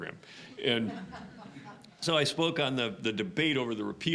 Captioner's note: audience laughing